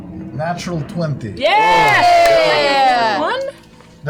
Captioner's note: cheering